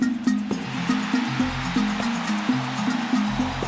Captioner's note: cheering